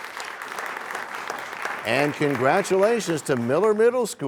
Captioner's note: applause